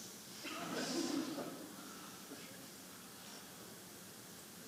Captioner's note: audience chattering